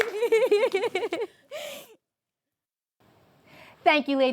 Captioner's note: all applauding